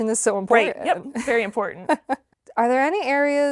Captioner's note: laughs